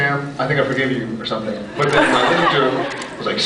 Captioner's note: scattered laughs